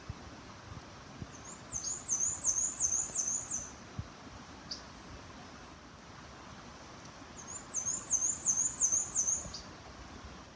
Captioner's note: Black-and-white warbler singing faintly over babbling brook